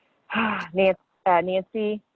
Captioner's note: sighs